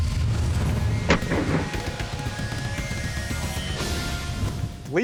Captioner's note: gun fires